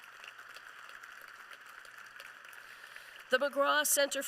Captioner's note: applause